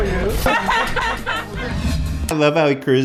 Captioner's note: mother of kid laughing